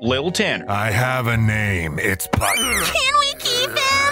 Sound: grunts

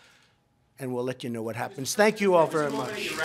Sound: applause

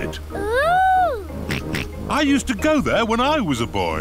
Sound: snorts

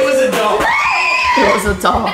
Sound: screaming

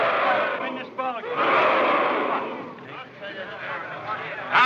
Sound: booing Continues

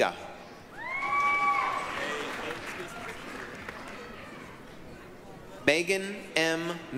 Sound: applause, cheering

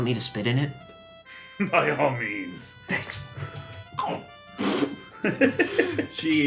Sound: spits

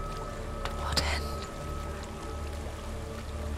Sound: whisper

